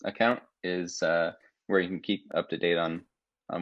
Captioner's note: none